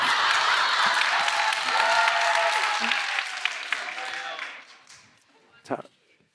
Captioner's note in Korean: 박수